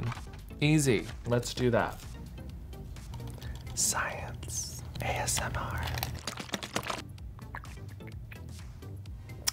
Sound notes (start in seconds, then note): 6.3 water glugs